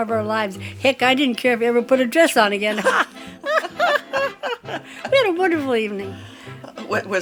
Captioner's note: laughs